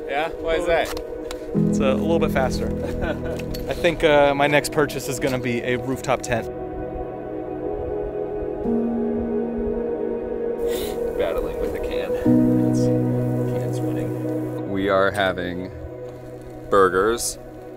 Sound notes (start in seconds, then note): 2.8 laughing; 8.2 calm music